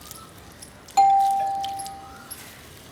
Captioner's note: doorbell